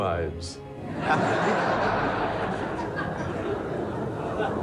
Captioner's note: audience laughs